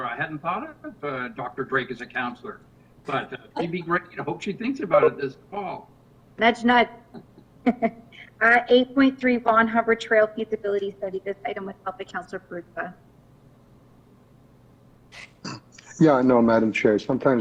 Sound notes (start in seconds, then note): 7.1 laughs